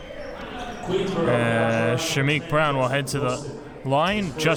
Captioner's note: none